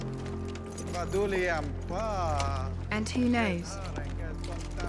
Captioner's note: continues in Valryian